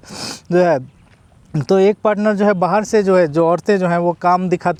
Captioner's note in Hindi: नाक से की जाने वाली आवाज़